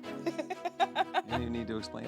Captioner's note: laughing